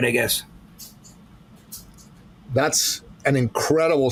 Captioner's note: pencil scratching